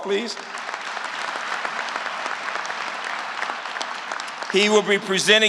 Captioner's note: applause